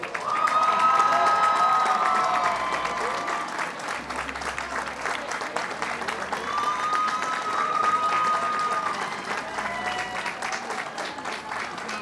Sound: applause and cheers

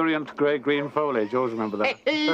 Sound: laughing

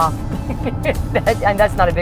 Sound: laughs

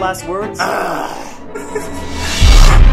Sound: creepy laugh

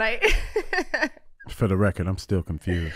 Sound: Amber and Iman laughing

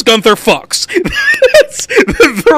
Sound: laughs

